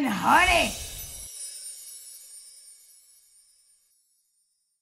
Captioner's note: chimes tingling